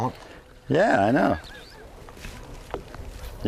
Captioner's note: laughter in the back ground